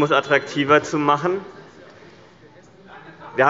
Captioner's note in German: Unruhe – Glockenzeichen des Präsidenten